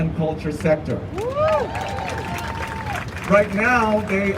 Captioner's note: crowd cheering